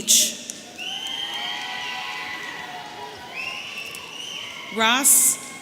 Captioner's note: audience cheering